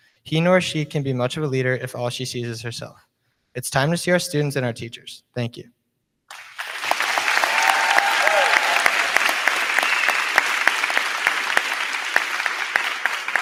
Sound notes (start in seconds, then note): 6.3 crowd clapping; 6.3 crowd cheering